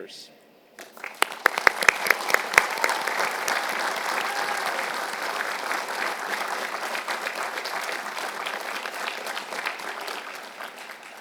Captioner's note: applause